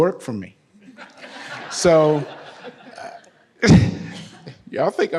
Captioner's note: audience laughs; laughs